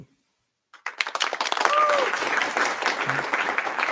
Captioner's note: applause